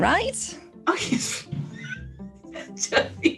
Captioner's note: laughs